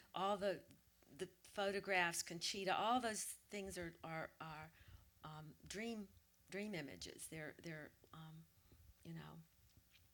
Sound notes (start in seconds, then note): none